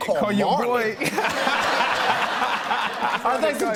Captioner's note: laughter